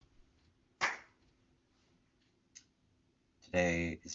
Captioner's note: normally Audible Clap